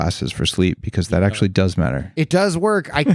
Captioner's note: chuckles